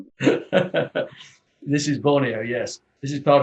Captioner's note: laughs